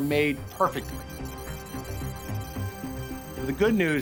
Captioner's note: computer calculating sound effect